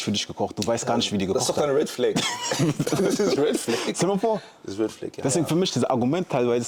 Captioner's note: gelächter